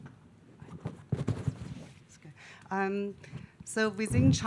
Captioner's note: faintly speaks